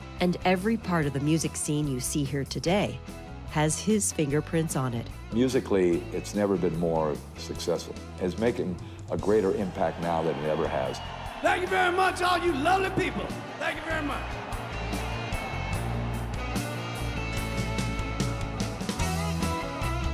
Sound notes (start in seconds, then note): 10.9 audience cheering; 16.7 energetic rock music